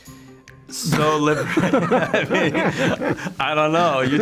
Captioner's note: both laughing